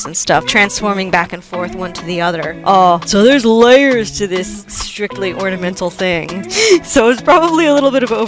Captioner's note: laughing